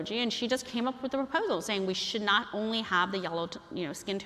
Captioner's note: none